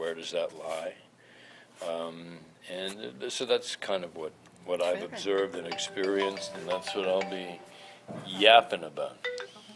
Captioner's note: ring tone